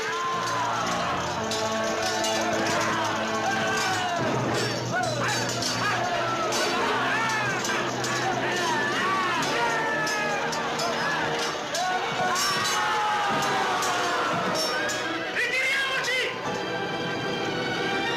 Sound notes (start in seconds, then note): 3.2 tense music turns celebratory; 7.9 laughing; 11.8 marching music